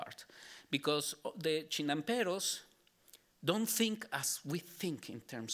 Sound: speaking Spanish

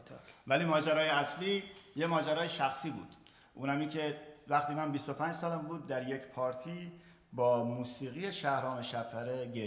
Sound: speaking in farsi

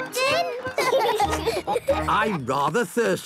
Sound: laughing

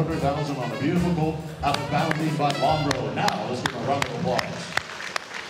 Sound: applause

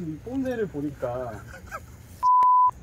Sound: haha

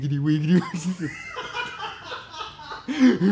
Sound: laughing

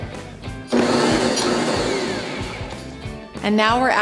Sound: mixer whirring

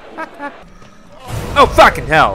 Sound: cackles; roars

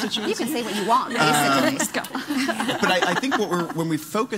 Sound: laughing

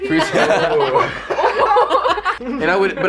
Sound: laughs

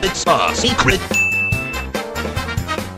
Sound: ding

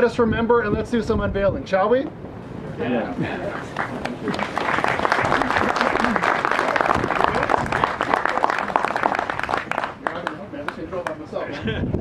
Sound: applause

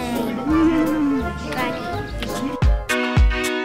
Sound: laughs; instrumental pop music

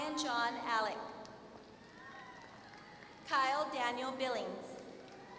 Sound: applause

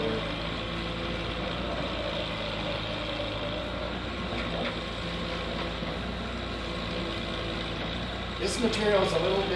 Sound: engine and equipment noises

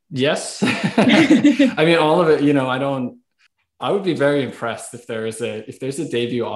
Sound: laughs

